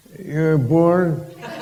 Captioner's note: laughter and applause